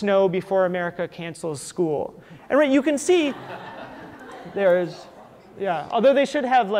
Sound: audience laughter

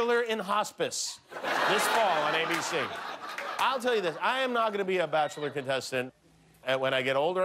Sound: laughter

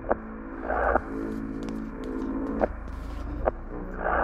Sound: footsteps

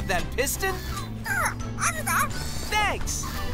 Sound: squeaking

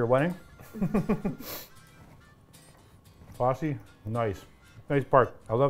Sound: laughing

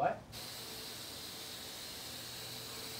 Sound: whirring

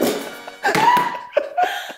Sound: laughing

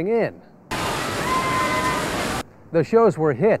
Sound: screaming

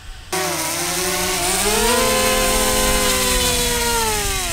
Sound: drone whirring

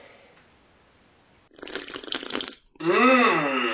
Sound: Roblox bloxy cola sound effect

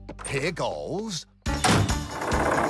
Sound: door Slams

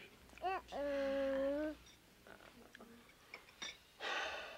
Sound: Joe Sr. sighs

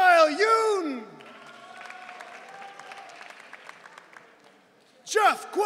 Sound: audience cheering

